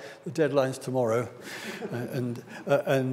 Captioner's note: audience laughs